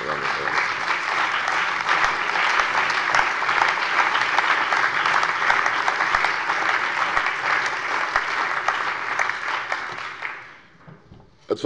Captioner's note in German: Allgemeiner Beifall